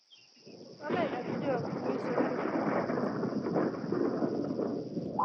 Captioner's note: thunder storm